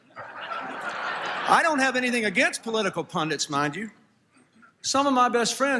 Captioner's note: laughter